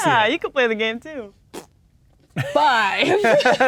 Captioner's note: blows raspberry; players laughing